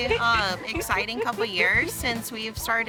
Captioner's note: laughing